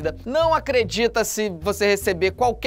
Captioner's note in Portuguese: none